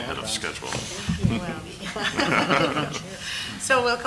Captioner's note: board laughing